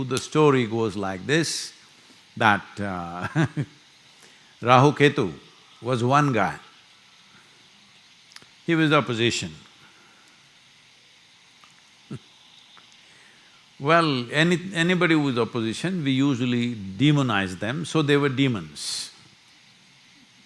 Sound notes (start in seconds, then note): 3.8 laughs; 10.9 laughs